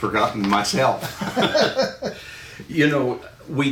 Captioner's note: laughing